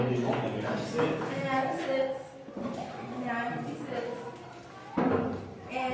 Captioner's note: speaks softly